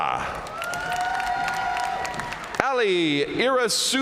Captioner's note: audience cheering and applauding